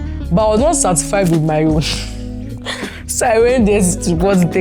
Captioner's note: laughs